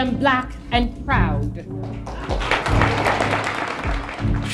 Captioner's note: applause; soundbite of archived recording